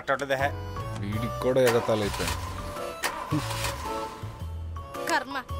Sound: engine sputters

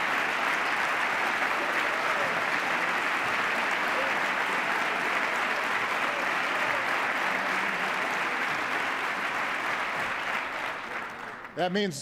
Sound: cheers, applause

